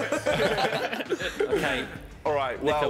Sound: laughing

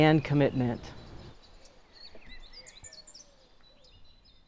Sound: birds chirping

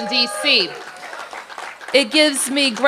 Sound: applause

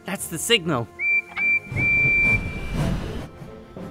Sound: whistles

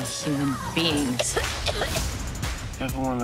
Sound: choking

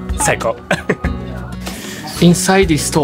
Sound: laughs

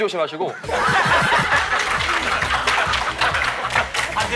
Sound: bursts into laughter

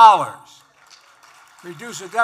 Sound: applause

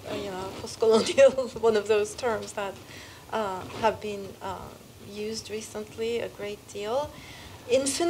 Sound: laugh

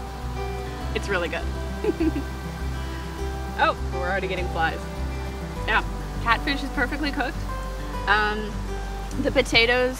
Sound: chuckles

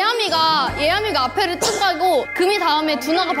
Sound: coughing

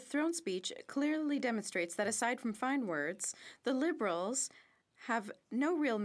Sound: speaking French

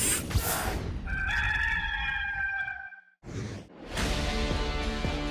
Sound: rooster crowing; upbeat music

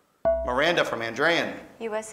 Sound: ding

